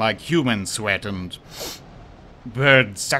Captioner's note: sniffs